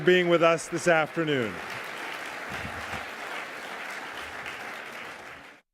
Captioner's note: applause